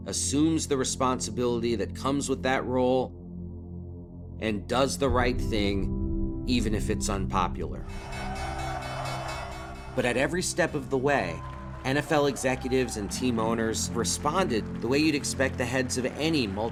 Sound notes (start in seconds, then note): 8.1 bell dinging